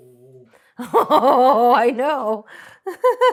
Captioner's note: laughs